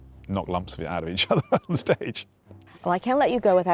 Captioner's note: laughs